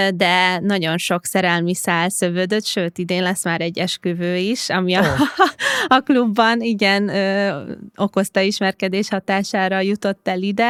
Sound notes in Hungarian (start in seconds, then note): 5.0 nevetés